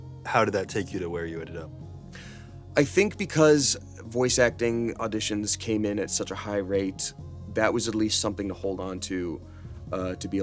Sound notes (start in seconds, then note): none